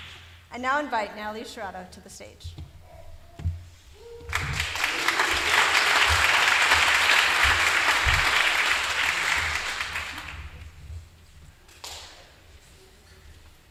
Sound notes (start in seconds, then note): 2.6 applause